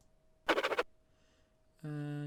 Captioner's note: scribbling sound